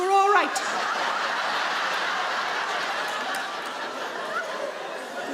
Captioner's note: audience laugh